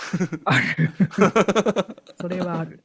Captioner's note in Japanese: 笑い